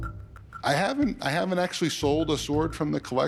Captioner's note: none